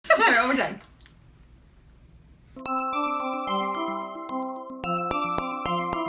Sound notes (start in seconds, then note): 0.0 giggles